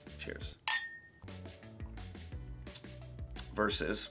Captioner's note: glasses clinking